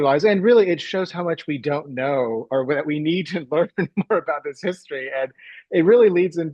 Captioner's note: chuckles